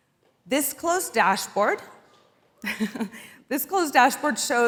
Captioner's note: chuckles